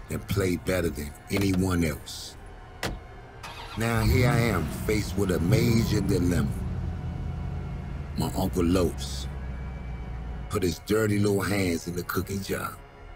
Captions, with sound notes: and play better than anyone else." (car door shutting) Now, here I am faced with a major dilemma. My Uncle Los put his dirty little hands in the cookie jar.